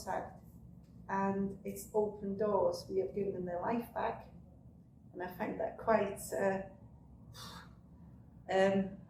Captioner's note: exhales